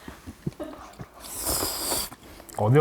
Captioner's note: slurrrrp